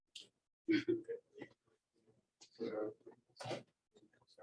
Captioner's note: laughter